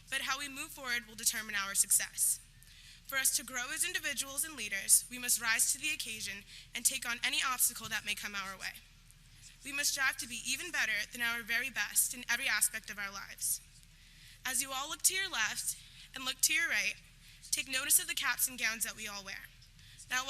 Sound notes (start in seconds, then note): none